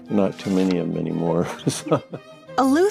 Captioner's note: laughs